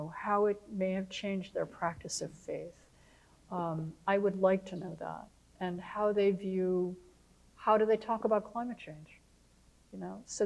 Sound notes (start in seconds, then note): none